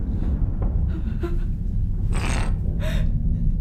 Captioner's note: хныкает